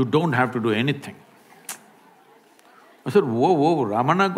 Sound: laughs

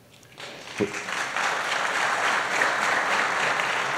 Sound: applause

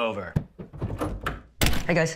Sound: knocking; door creaking

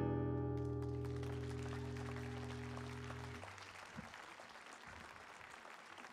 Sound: applause

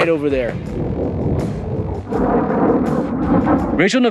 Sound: jet engine roaring

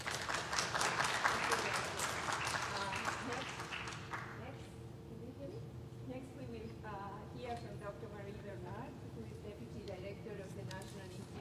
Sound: applause

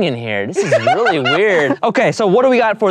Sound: laughing

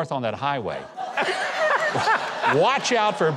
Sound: audience laughing

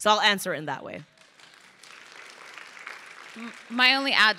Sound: crowd applauding

